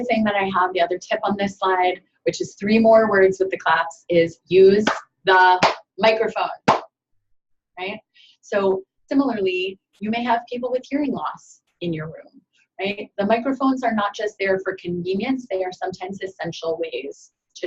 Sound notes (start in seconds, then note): 5.6 claps